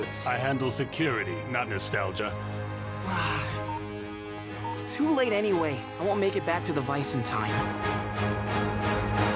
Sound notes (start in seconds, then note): 3.0 sighing